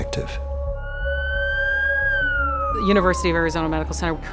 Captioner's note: siren